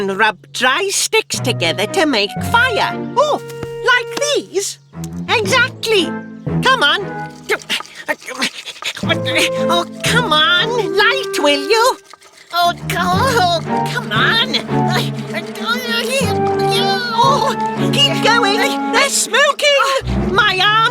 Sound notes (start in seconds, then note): 8.2 struggling; 10.7 grunting